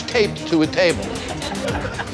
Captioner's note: laughter